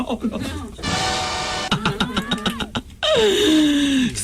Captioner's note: laughter